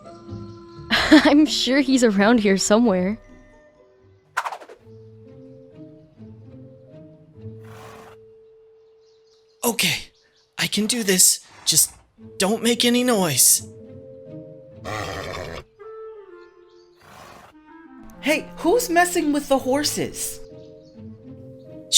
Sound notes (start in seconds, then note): 14.8 horse neighs loudly